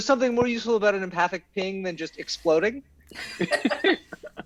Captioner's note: cast laughs